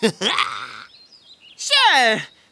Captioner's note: laughing